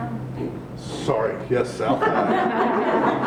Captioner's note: group Laughs